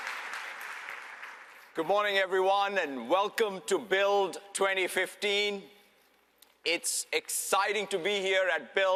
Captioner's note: applause